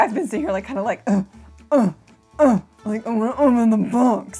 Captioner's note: grunting